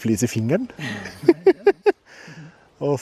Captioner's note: laughs